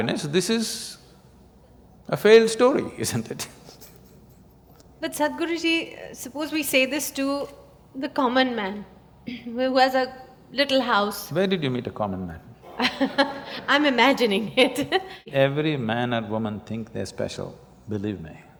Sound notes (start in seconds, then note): 12.6 laughs